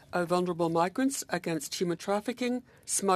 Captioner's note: speaking French